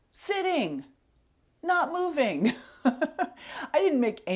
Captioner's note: laughs